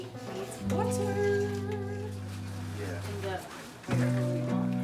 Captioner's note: people chatter